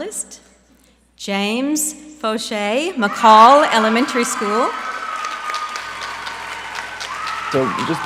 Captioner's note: applause